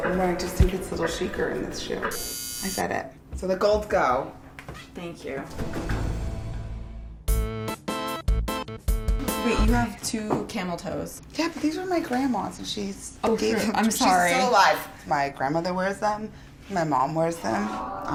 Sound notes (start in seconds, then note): 2.1 buzzing; 5.6 dramatic music; 8.4 upbeat music